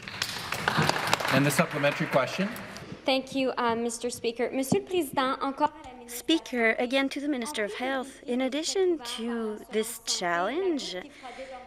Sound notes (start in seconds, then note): 3.8 applause; 8.0 speaking French